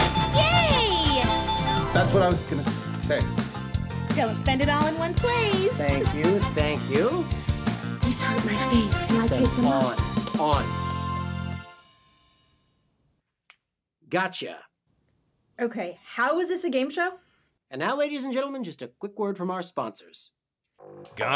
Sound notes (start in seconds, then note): 0.0 bell dings, fun melody plays; 10.9 melody ends; 13.4 snaps fingers